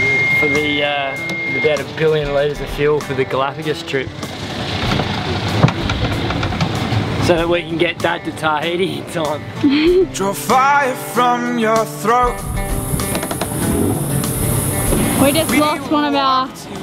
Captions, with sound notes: The that is billion laser shield for the galapagus trip So we can get back to tidy time you to [fire] from your throat Wait, it blocks my mouth